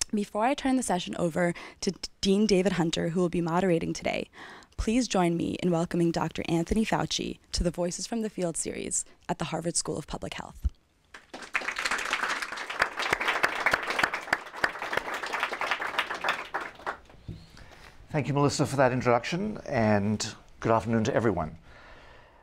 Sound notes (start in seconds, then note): 11.1 applause